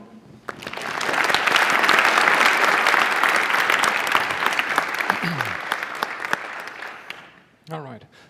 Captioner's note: applause